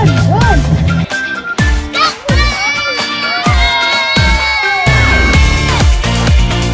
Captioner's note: cheering